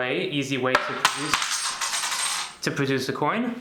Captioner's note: coin clangs